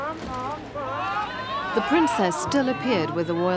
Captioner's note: crowd cheering